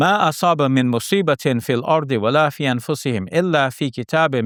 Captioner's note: speaks Arabic